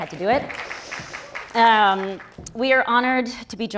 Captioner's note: audience applauds